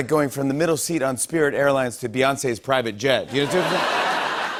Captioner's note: stammers